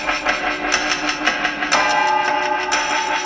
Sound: ticking and chiming

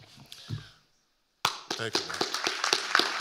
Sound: clapping; audience applauding

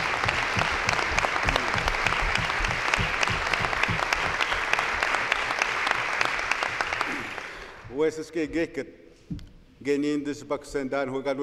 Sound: some Applause

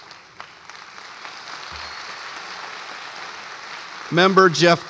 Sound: audience applauds

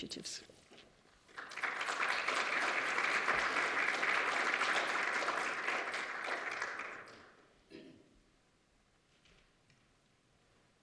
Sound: applause

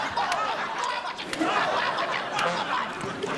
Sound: laughing; stammering

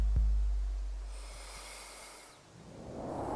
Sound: inhale

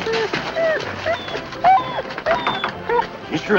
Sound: dogs whimpering

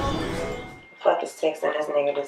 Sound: phone chiming

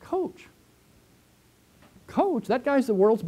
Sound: pause

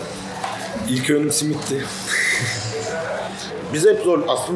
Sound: laughing

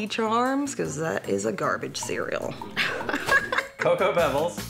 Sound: laughs

